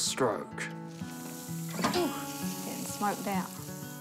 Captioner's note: barbecue sizzles